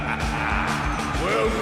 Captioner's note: junker king laughs